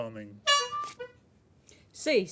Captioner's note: honking